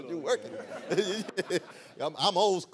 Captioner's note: laughter